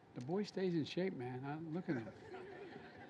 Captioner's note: laughter